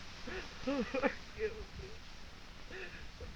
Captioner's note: sobbing